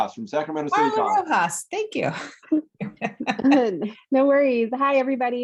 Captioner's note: laughs